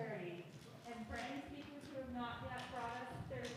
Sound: speaking faintly

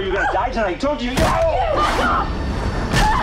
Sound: Dave yells; foot pounds; suspenseful music

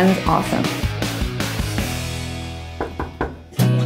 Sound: upbeat music; knocking; light music

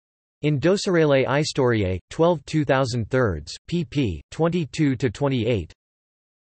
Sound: in Romanian

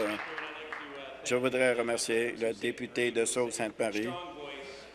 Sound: applause

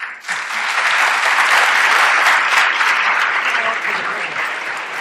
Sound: applause

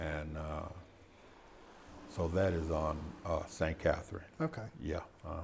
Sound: car drives

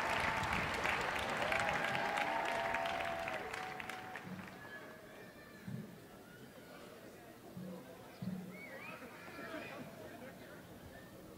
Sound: applause

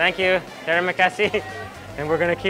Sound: speaking in foreign language

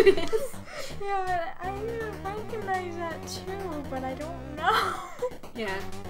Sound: laughs

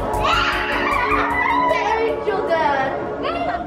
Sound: kids exclaiming

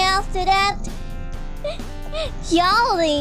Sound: laughing

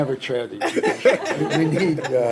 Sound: laughing continues

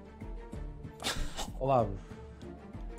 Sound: coughs

